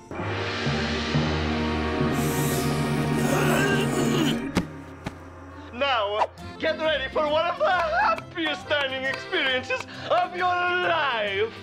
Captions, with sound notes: (sniffs) (gagging) NOW GET READY FOR ONE OF THE HAPPIEST DINING EXPERIENCES OF YOUR LIFE.